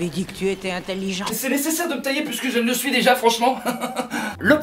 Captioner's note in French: rires